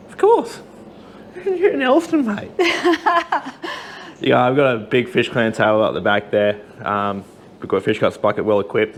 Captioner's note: laughing